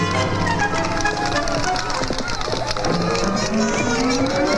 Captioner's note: horse hooves clopping